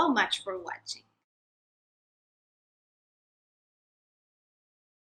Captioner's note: silence